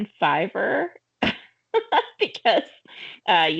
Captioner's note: laughing